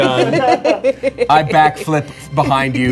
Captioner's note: laughing